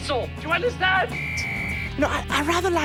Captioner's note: whistle